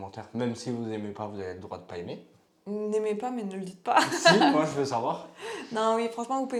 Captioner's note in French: rires